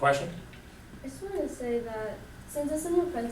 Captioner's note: voiceover